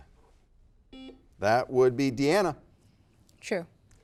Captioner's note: buzzer beeps